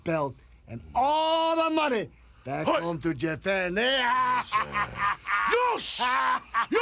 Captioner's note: laughs